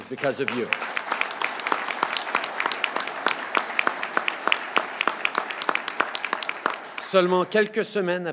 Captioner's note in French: Applaudissements